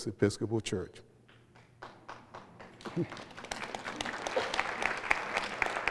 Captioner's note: applause